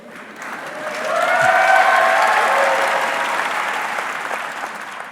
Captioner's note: audience cheering